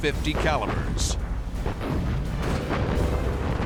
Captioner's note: explosions